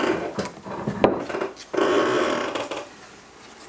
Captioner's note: creaks